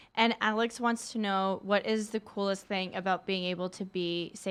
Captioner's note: none